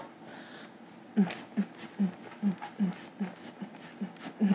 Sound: she hums

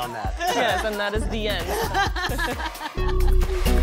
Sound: laughter; upbeat music plays

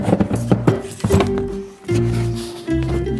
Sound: rustling

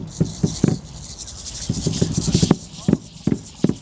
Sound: rattles sounding

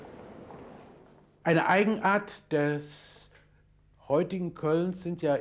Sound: speaking in foreign language

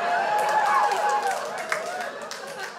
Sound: crowd cheers; crowd laughs

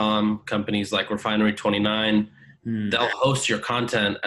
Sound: hums

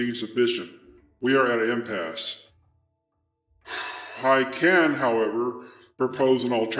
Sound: subject lets out a sigh

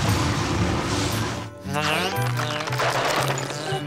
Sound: buzzing

